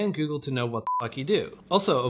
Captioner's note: beep